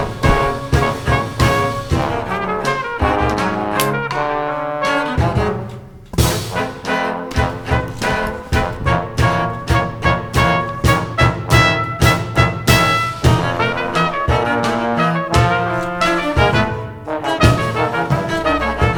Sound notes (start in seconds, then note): 3.7 gun cocks